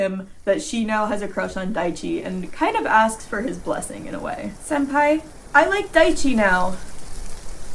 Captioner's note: wind rustling leaves